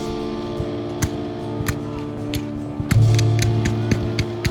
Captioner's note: guns fire